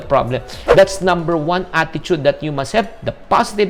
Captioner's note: swoosh